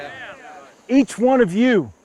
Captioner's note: men cheer